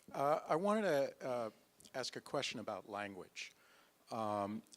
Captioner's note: voiceover